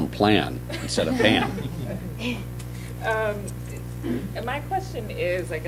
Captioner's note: laughter